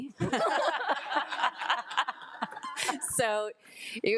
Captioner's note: board of trustees laughing